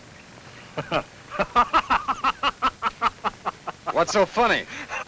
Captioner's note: Frank laughs